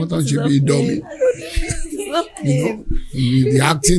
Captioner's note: laughter